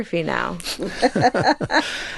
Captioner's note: chuckle